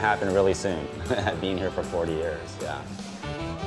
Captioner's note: laughs